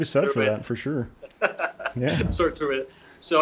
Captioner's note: chuckling